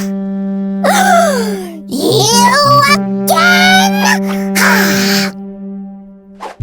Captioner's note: gasp